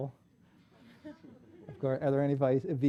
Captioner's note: hushed laughter